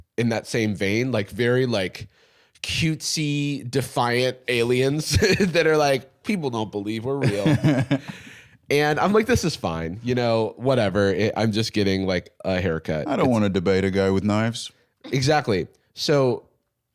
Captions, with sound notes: in that same vein, like very... cutesy, defiant aliens (laughs) that are like, "People don't believe we're real." And I'm like, "This is fine." You know, "Whatever. I'm just getting a haircut." "I don't wanna debate a guy with knives." Exactly. So...